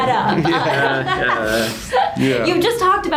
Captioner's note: laughs